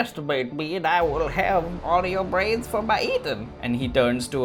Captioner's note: none